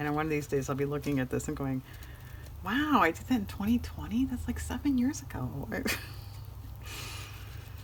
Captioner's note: laughs